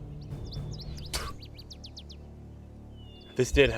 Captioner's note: Coleman spits